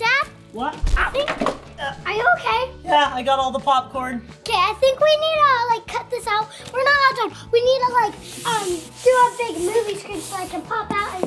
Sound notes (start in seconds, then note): 0.8 head thumping